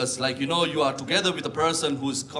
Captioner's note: none